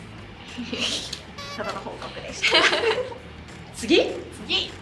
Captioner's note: laughs